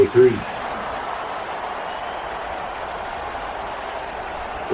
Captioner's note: crowd cheering